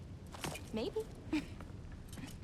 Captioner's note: laugh